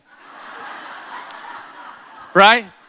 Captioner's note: audience laughing